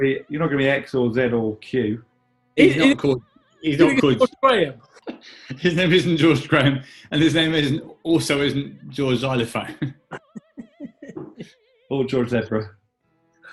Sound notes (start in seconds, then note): 3.6 laughing; 10.1 chuckling